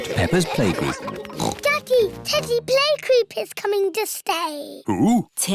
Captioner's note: oinks